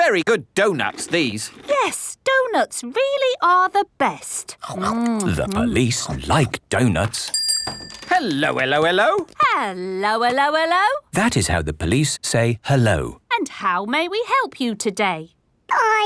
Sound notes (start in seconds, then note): 0.2 munching; 7.3 bell rings